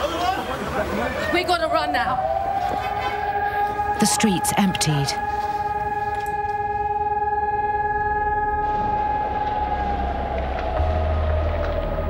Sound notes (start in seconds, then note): 6.9 raid sirens blaring; 9.3 distant explosions